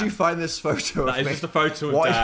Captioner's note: chuckles